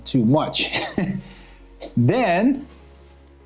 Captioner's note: chuckling